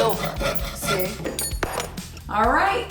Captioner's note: clangs to the ground